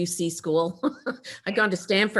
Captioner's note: chuckles